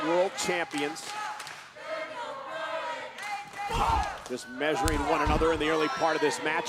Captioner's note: applause